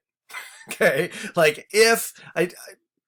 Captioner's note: instructor laughs